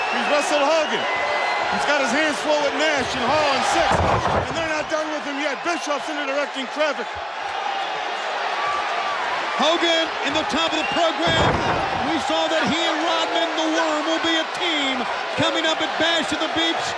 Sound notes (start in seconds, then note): 7.9 audience cheering; 11.2 body thudding